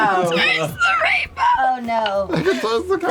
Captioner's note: laughs